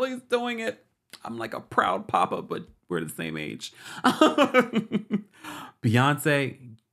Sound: laughs

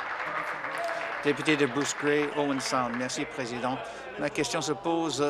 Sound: applause

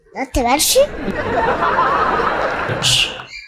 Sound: laughter

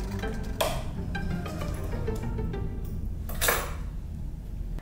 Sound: sewing machine clicks

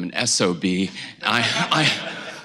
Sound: laughter

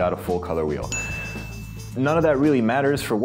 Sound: dinging

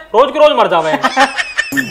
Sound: laughing

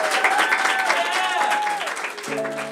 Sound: applause

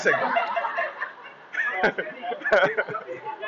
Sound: laughter

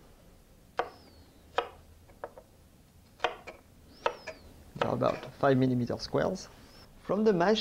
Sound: cutting sounds

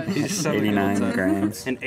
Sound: everyone laughing amusingly

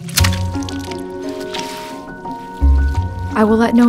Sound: mop sloshes

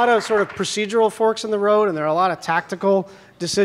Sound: applause

